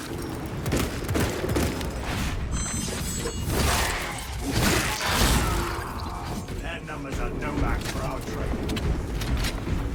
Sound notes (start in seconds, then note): 0.5 gunfire